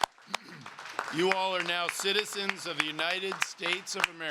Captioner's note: applause